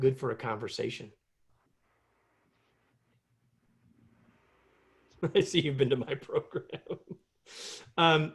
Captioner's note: laughter